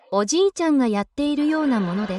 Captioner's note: laughter